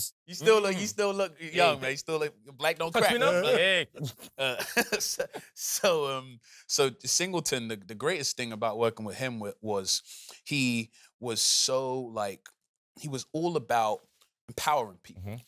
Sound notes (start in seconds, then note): 2.8 laughs